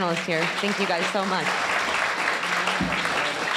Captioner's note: audience applauding